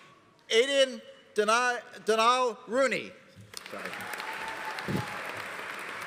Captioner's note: audience applauding